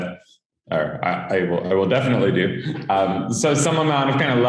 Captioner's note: chuckles